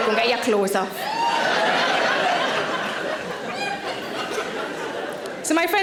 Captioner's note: audience laughing